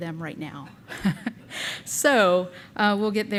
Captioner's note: chuckles